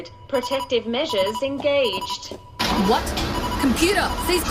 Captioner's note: beeping